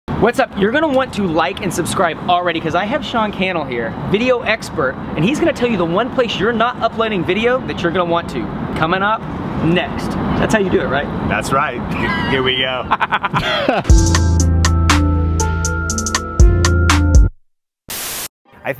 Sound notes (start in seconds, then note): 12.8 laughs; 13.8 groovy instrumental music